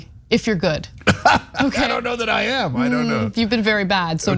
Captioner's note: laugh